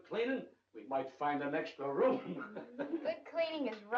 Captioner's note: chuckling